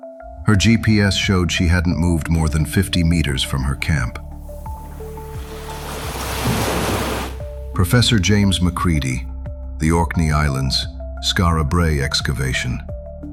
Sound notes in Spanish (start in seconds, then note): 4.4 olas del océano